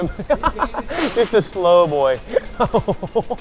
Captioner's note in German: lacht